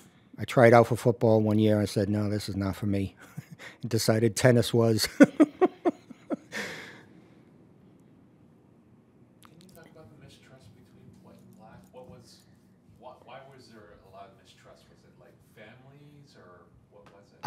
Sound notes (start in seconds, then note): 5.0 laughs